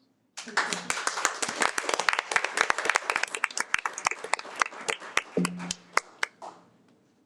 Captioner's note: applause